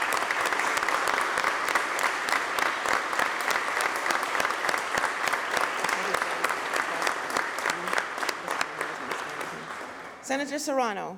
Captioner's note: applause